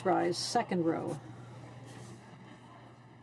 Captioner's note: speaking in french